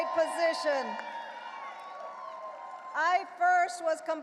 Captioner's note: audience cheering and applauding